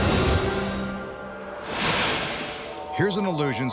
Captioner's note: light beam swishing